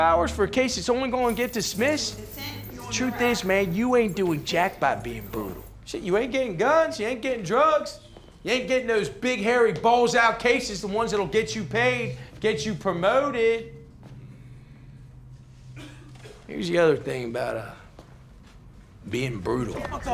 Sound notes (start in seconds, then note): 15.7 coughs